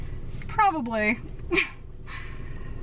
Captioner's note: laughs